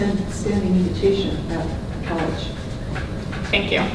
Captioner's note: speaking softly